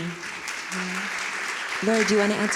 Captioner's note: audience applauding